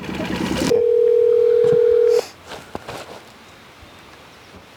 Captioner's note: phone ringing; walkie talkie beeping